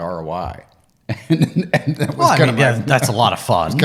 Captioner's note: laughing